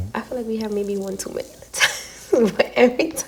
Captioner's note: laughs